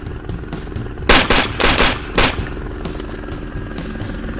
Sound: gun firing

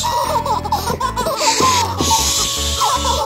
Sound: baby laughing

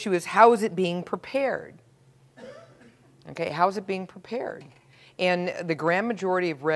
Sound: cough

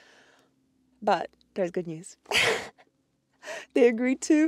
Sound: laughs

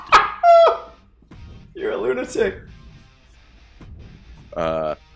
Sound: laugh

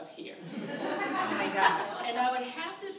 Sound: audience laughs

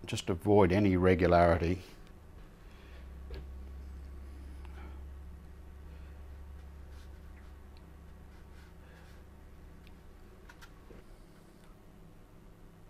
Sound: silence

